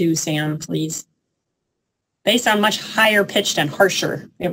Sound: sound effect

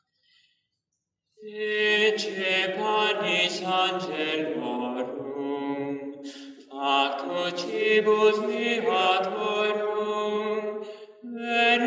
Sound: chant

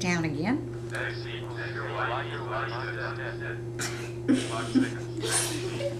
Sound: multiple calculator voices

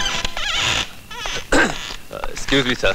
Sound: door creaks; clears throat

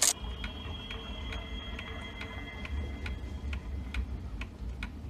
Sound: clock ticking

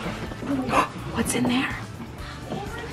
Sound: gasps

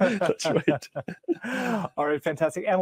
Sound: chuckling

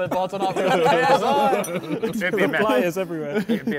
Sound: men laughing

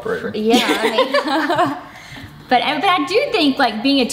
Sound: all laugh

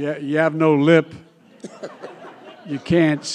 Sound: laughter

